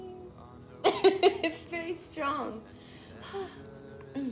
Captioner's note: laughs; Betsy sighs; Betsy clears throat